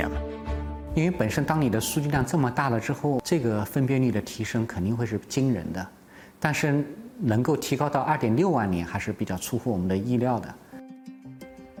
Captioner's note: speaking Chinese